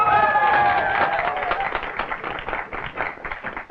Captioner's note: audience applauding